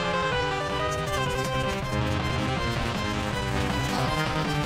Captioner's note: keys tapping rapidly